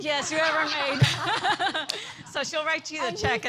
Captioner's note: laughter